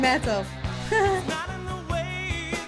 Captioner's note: laughs